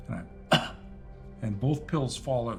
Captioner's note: coughs